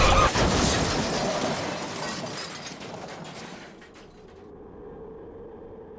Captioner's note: brakes squealing, woman screaming; metal crunching and glass shattering